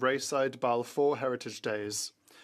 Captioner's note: speaking French